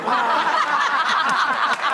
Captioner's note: laughter